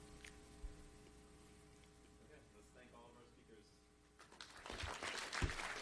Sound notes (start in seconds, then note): 4.1 applause